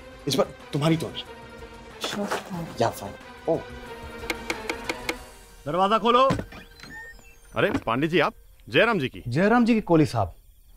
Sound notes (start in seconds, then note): 4.1 knocks on door; 6.2 door opens